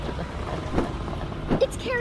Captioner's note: sound of flapping wings approaches